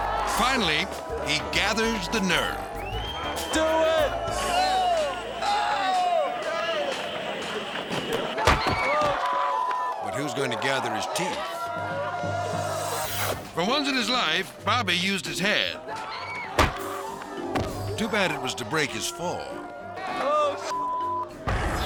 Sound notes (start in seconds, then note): 5.2 skaters shouting; 8.4 thuds; 12.9 crowd shouting; 16.6 head whacks; 20.7 beep